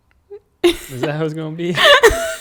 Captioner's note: laughs